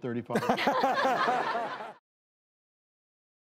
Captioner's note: crowd laughter